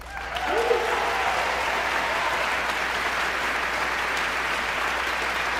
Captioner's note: guests cheering and applauding